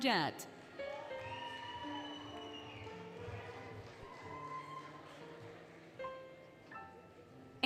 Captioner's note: applause, Cheering, Music